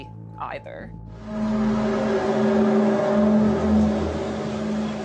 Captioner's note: groaning sound